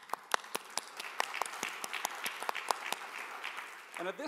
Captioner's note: applause